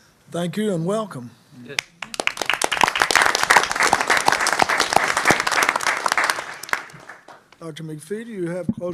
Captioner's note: applause